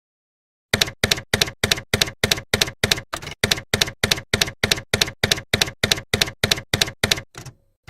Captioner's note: typewriter keys clacking